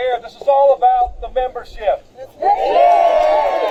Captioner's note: applause